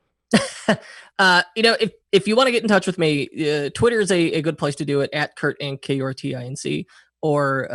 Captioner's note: laughs